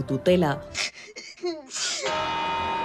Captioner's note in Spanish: llora